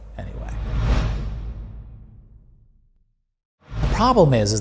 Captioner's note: air whooshing